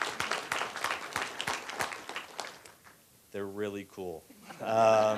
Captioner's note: applause